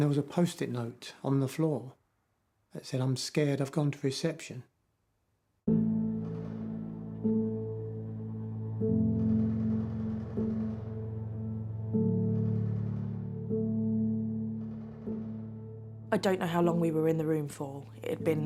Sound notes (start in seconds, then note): 5.9 dark piano music; 5.9 distant gun fires rapidly